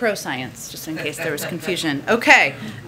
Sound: laughter

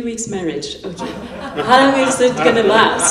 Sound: laughter

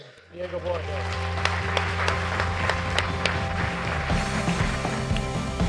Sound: applause

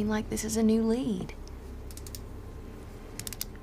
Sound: Travis clicks his pen

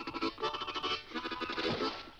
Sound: water splashes

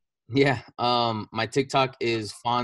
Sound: giggles

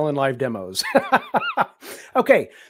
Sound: laughs

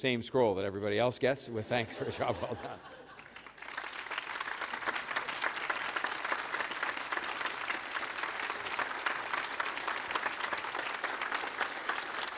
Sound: applause

